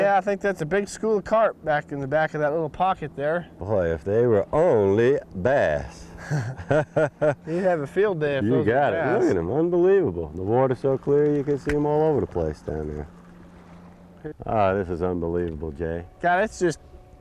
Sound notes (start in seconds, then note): 6.1 laughter